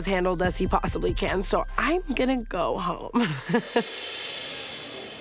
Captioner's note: chuckles